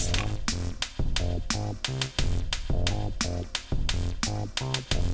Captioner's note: spray bottle sound